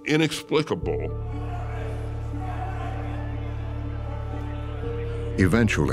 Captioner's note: stammers; people shouting